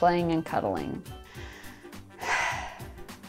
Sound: inhales loudly; exhales loudly

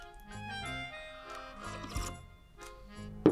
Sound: slurps

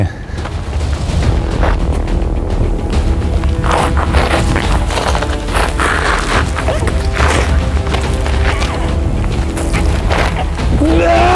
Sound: feet slipping on gravel noise; grunting and screaming

